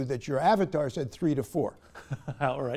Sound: laughter

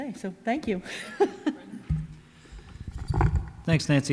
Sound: laughs

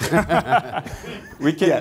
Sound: laughter

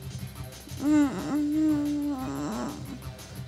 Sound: groans

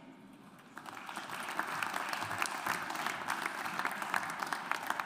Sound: audience applauds

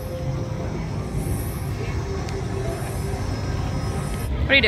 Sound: mechanical sound

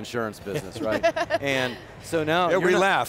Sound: laugh

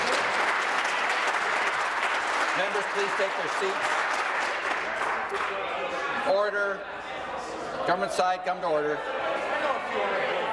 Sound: applause

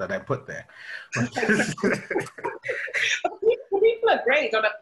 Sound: laughter

